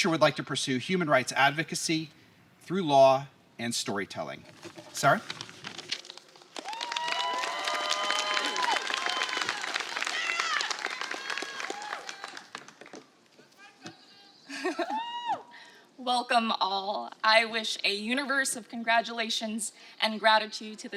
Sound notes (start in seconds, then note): 5.9 applause; 6.5 cheering